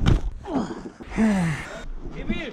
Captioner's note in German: stöhn